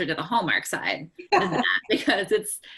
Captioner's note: laughs